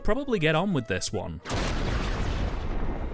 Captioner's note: lightning crackle